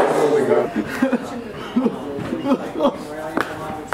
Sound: crying

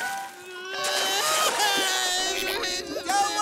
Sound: crying

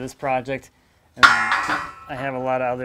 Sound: metal clashing

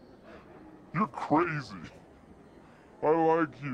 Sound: slowed-down voice

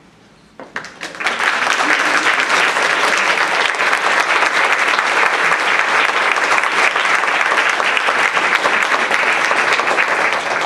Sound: applause

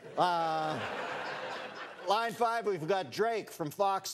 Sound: laughter

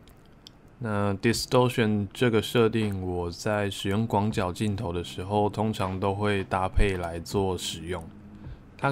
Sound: distortion

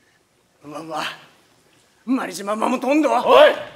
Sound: in Okinawan dialect

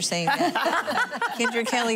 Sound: laughing

